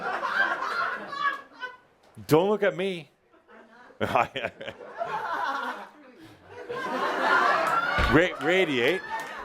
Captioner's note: laughter